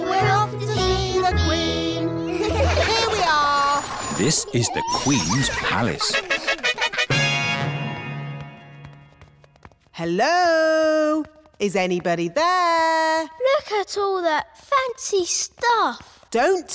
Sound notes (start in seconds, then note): 2.2 all giggle